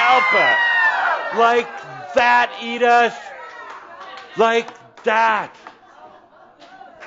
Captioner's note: laughter